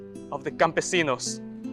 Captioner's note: speaks Spanish